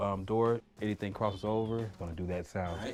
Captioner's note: beeps